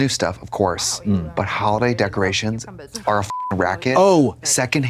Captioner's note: beep